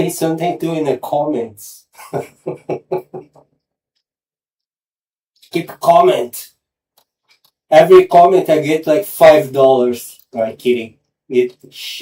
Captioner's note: laughter